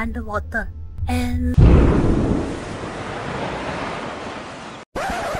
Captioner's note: underwater explosion